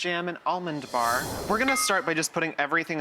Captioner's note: swoosh